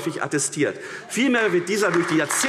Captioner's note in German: Beifall AfD